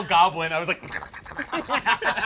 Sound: gurgles

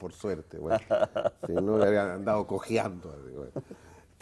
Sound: ríe

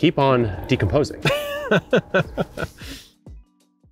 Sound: laughs

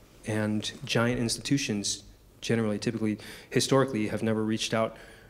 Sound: none

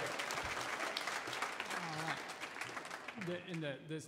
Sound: audience cheering

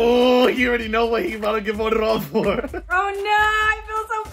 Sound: laughs

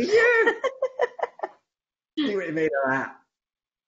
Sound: laughs

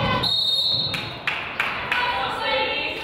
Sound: whistle blows; crowd applauds

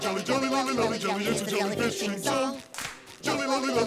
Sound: clap

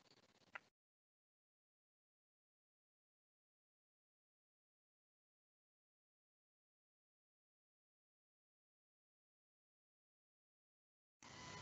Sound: microphone cuts off

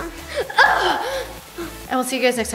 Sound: roars

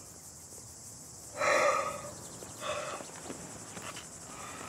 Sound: yawns

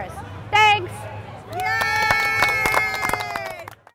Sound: clapping and cheering

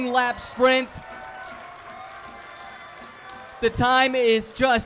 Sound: crowd cheering

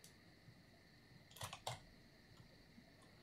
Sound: keyboard sounds

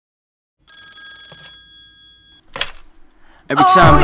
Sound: phone rings

